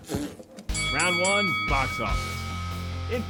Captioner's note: bell rings